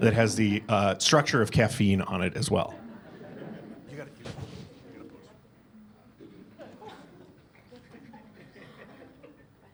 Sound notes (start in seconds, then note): 2.7 laughter